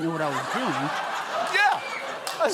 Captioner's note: audience laughs